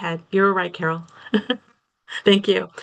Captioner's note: laughs